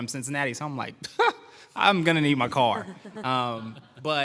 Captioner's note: laughter